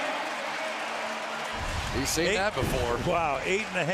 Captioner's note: pa announcement